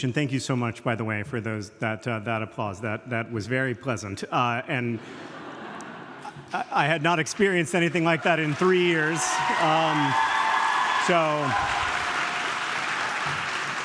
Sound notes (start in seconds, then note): 4.8 audience laughing; 7.7 audience cheering